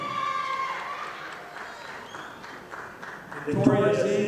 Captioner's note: audience applauding